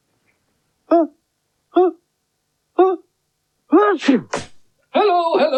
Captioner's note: magician Sneezes Loudly